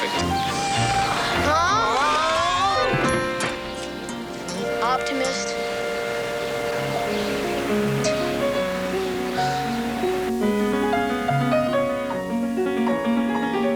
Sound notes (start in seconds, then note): 1.9 willie yelling; 7.8 piano music playing